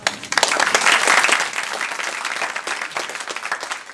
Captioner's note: applause